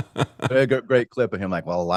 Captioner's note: laughing